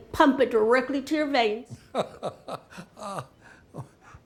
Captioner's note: laughs